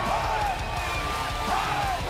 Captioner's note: cheers & applause